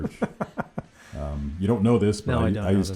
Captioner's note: laughing